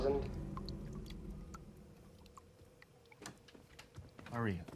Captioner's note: water dripping